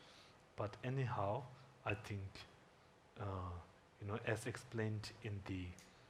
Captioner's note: speaking Tibetan